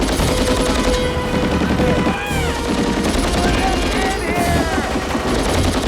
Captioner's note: shouts